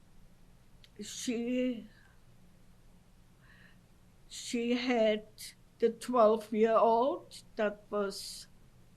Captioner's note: pauses for 3 seconds